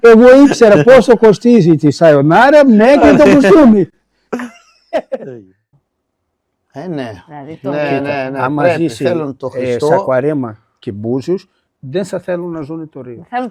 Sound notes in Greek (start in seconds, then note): 4.3 γέλια